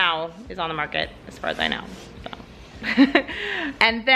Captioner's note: laughs